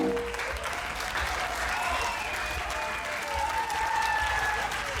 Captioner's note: applause